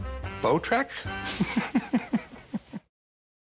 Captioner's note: laughs